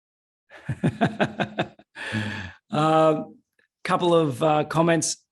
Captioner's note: laughing